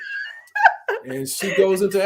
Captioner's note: laughs